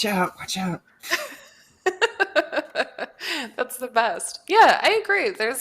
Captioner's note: laughs